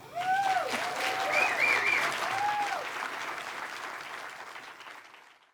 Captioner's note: applause, cheering